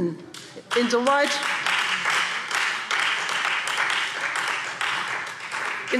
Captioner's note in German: Beifall Freie Demokraten